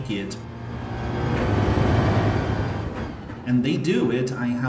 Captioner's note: engines revving, tyres grip, racing sounds